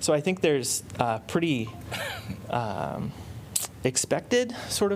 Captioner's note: laughter